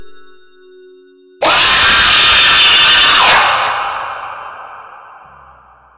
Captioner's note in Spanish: Grito desgarrador